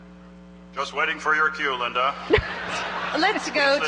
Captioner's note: voiceover